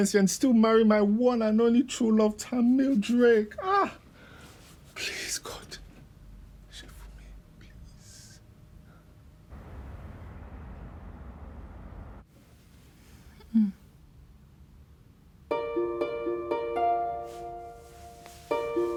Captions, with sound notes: and still marry my one and only true love Tamil Drake. Please God. (speaking in foreign language) (phone ringing)